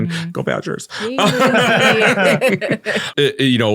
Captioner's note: all laughing